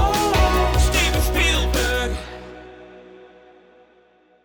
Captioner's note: mildly distorted